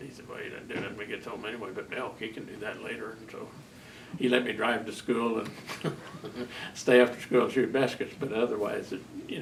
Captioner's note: laughs